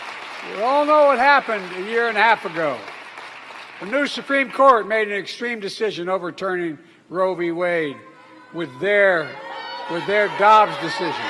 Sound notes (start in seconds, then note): 4.6 applause